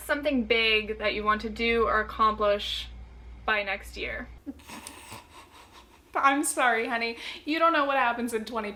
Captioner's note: snorting laughter